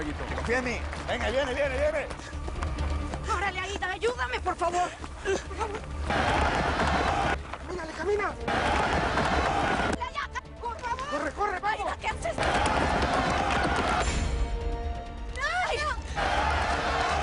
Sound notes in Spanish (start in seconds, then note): 8.4 Algarabía en el hipódromo; 12.3 Gritos y exclamaciones; 14.0 Algarabía en el hipódromo